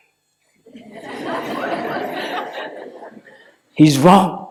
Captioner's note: laughter